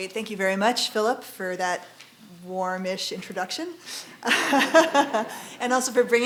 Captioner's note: laughing